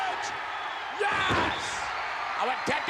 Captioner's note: spectators cheering